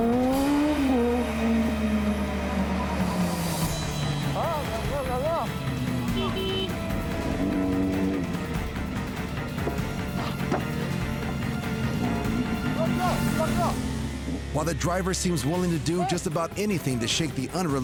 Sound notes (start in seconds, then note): 0.1 motorcycle revving; 5.9 vehicle honking; 6.9 suspenseful music; 13.5 speaks in foreign language